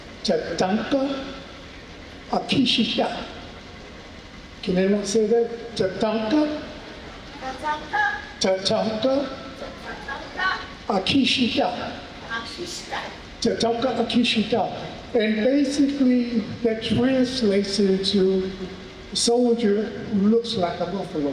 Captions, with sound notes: (speaking in foreign language) Can anyone say that? (speaking in foreign language) And basically, that translates into soldier who looks like a buffalo.